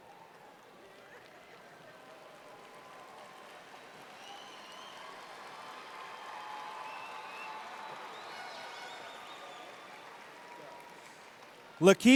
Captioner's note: applause and Cheering